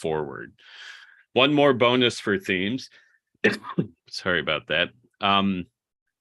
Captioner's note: coughs